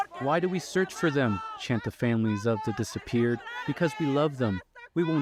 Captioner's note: speaking alternate language